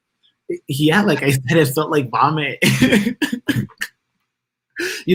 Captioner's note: laughs